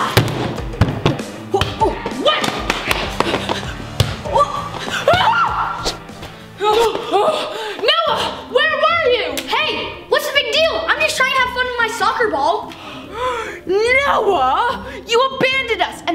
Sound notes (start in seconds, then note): 0.1 garbage bin bangs; 5.0 police girl screams; 6.3 police girls gasp